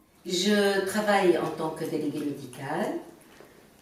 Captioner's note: woman speaking in french